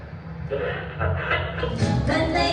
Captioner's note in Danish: radioknitren